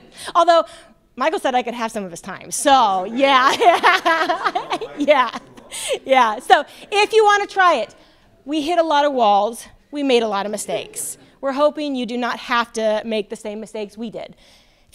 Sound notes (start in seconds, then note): 3.2 laughter